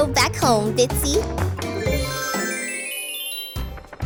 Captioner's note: transition tones